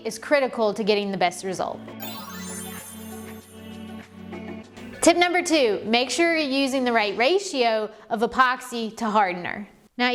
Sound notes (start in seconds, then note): 1.9 gentle music; 2.0 transition sound